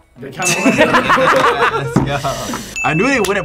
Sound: both laugh

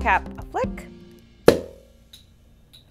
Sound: loud pop

